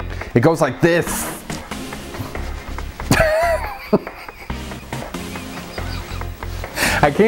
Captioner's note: laughing